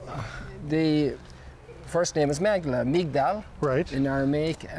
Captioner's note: foreign language